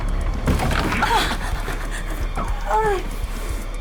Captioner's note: Sue groaning